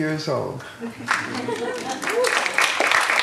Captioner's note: laughter; applause